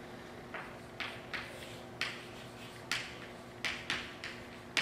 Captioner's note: chalk writing on chalkboard